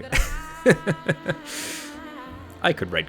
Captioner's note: laughs